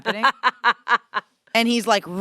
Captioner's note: laughs